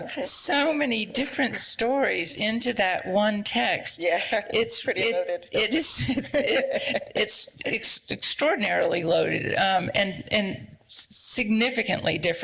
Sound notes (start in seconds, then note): 6.1 laughs